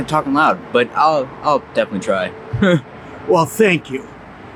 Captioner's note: chuckles